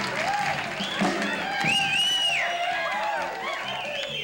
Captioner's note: wolf whistling